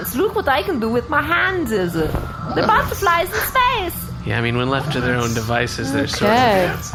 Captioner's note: fluttering